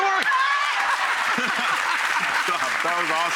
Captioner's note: audience applauds; laughs